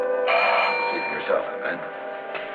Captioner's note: bell ringing